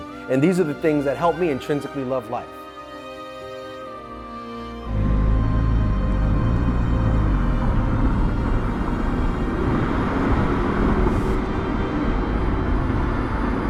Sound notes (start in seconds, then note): 4.0 soft music; 4.8 car engine revving